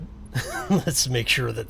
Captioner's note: chuckles